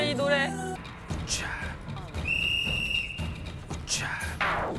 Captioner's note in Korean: 호루라기 소리